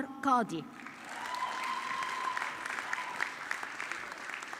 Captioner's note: audience clapping